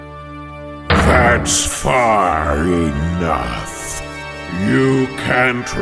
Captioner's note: booming!